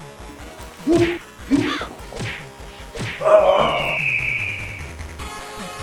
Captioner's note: punches, grunts & birds chirping